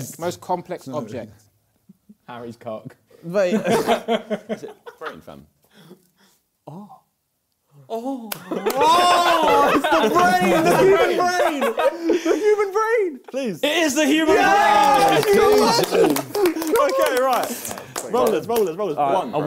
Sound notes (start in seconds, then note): 3.6 crowd laughing; 8.2 claps hands; 14.1 both cheering